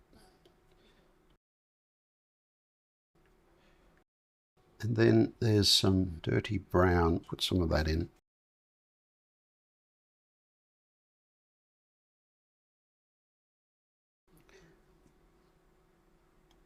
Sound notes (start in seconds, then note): 0.5 silence; 11.2 silence